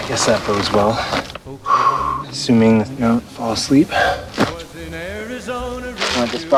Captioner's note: sighs